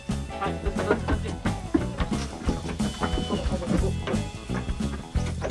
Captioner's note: laughs